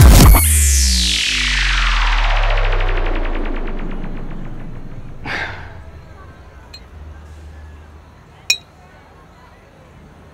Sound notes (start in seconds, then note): 5.2 Exhales